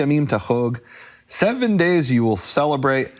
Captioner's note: speaking foreign language